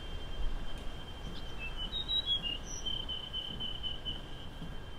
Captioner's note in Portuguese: Pássaros assobiando